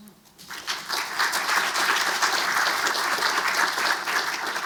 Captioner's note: audience clapping